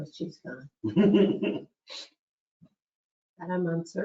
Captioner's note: laughs